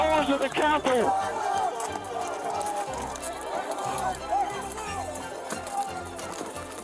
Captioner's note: shouting